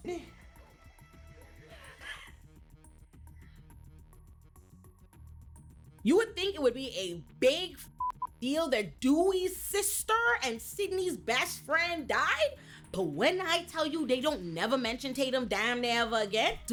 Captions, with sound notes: (suspenseful music) You would think it would be a big (beep) deal that Dewey's sister and Sydney's best friend died, but when I tell you they don't never mention Tatum damn never again,